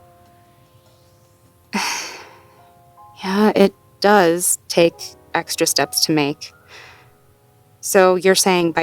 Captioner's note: defeated sigh